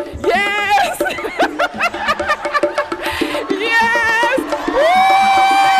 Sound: laughing

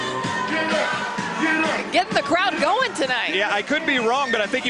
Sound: sirens

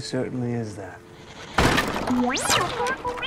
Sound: BB-8 violently breaks the door in

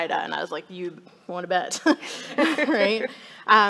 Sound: people laughing

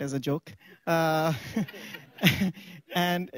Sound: laughter

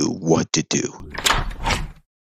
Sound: door Opens

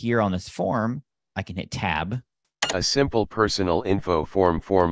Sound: sound of key being pressed on keyboard

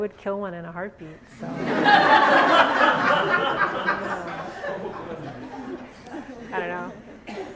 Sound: audience laughs harder

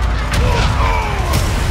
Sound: urlo

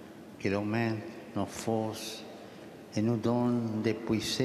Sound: speaking French

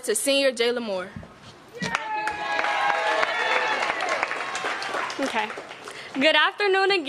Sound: applause

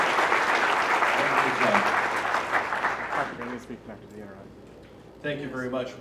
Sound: applause

